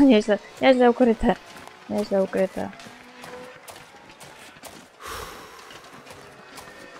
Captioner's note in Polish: Aplauz